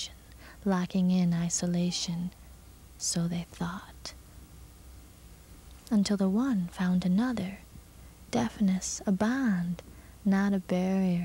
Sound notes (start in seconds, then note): none